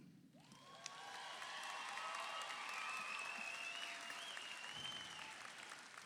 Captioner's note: audience cheers; audience applauds